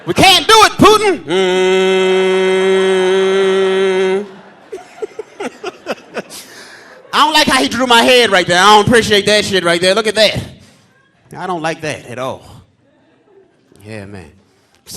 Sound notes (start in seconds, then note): 1.3 humming; 5.2 laughing